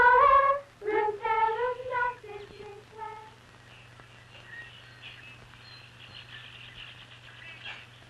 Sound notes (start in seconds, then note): 3.2 birds chirping